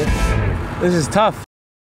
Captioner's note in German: spricht englisch